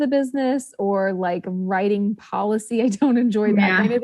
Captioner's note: laughs